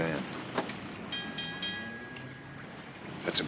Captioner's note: bell clanging